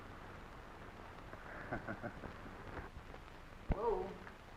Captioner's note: laughing